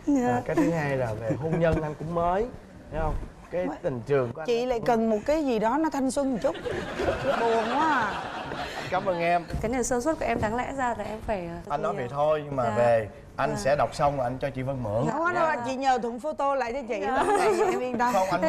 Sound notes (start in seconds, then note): 6.6 laughing